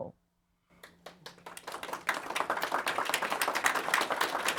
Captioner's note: audience applauding